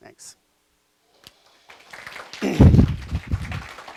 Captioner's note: clapping